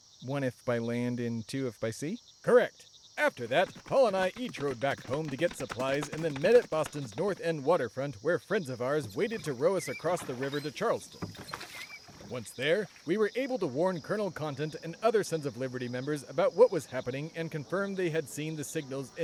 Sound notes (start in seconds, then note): 3.2 horses gallop